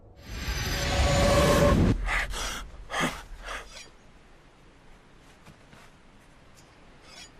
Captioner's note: dramatic music; Odysseus gasps